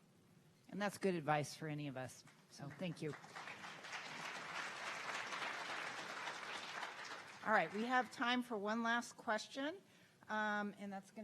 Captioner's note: clapping